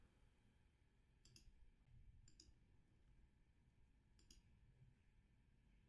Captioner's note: computer mouse clicks